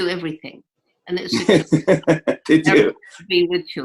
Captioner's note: laughter